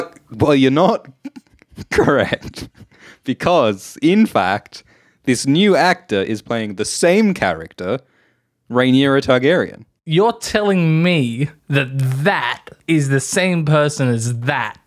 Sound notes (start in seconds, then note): 0.0 Alt Schwift X voice; 5.1 Alt Schwift X voice